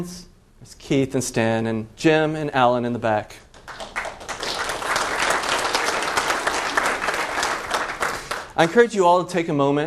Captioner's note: applause